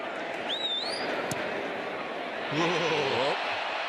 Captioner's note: person whistles